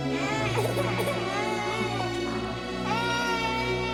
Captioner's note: baby crying